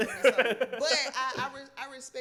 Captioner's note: laughs